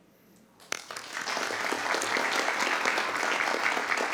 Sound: applause

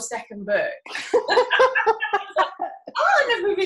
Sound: laughing

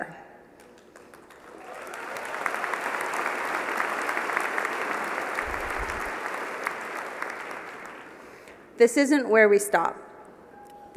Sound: applause

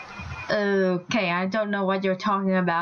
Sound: sarcasm

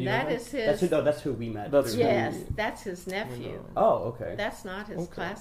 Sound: laughs

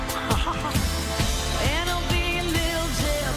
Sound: laughs

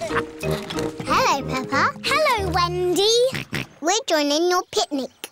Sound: snorts

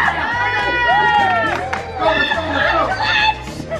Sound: yelling

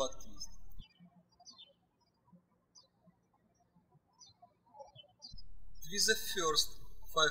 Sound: birds chirping

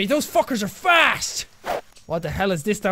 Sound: whoosh

